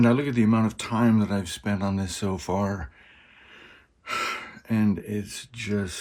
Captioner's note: sigh